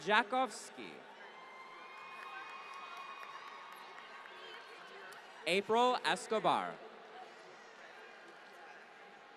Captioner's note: applause